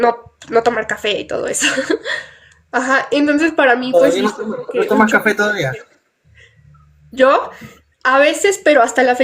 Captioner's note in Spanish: risas